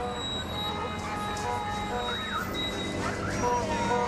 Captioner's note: horns honking